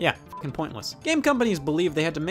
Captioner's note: beep